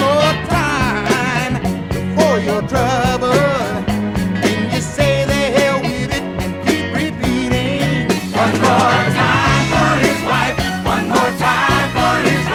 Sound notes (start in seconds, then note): none